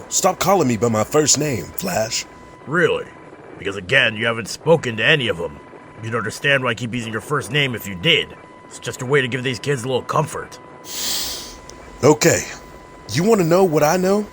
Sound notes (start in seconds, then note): 10.8 deep breath in